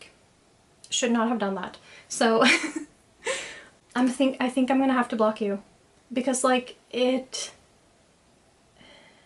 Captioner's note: laughs